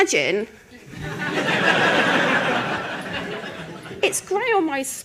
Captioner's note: laughter